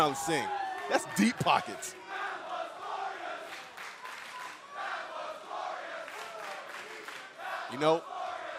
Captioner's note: crowd cheering